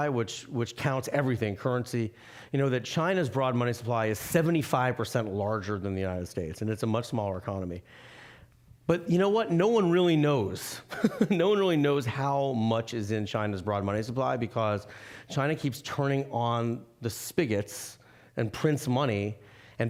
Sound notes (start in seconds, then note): 10.9 laughing